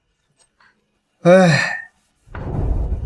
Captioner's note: sighs